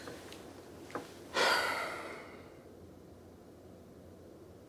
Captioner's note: sighing